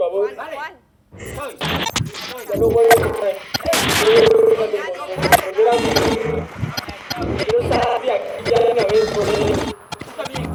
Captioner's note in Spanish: chasquidos electrónicos. diálogos inaudibles